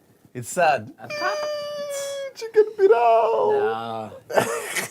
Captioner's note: squeals; Abdul giggles